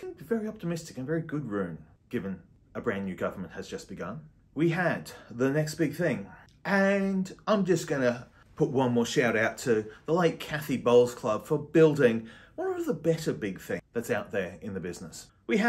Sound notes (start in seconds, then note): none